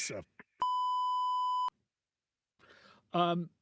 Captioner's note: beep